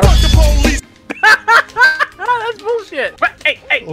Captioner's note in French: Rire